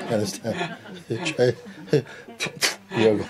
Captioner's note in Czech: smích